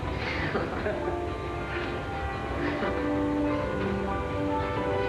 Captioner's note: laughing